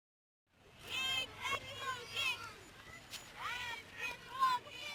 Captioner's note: people chanting